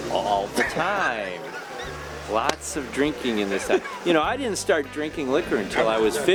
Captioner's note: raspy laughter